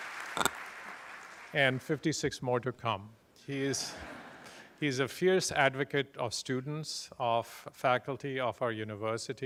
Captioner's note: applause